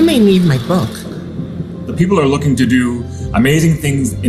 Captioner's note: device beeps and hisses